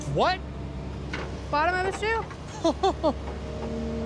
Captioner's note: laughs